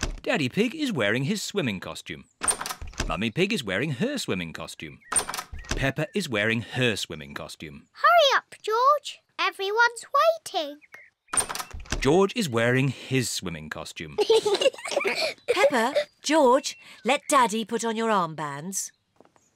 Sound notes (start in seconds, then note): 14.1 both laugh